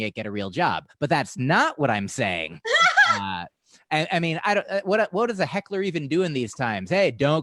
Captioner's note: laughter